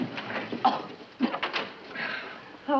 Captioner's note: coughs